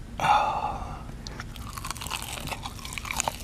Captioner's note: soft moaning